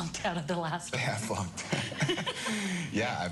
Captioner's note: both laugh